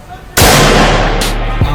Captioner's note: yelling and screaming; gunshot